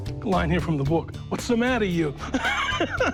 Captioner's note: laughs